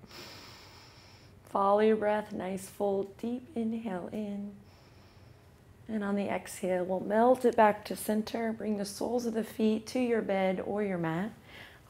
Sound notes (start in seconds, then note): 4.6 inhales